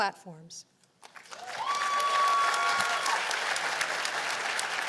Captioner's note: cheers and applause